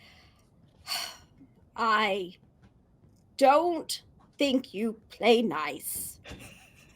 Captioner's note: sighs